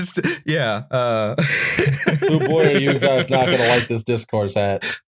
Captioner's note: laughter